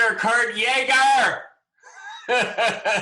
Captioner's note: laughter